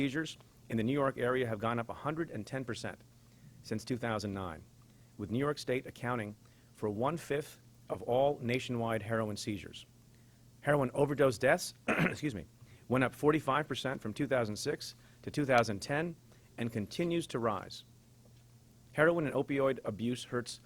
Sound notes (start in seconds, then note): 11.8 clears throat